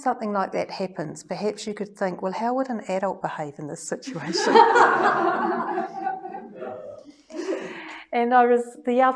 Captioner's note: lots of laughter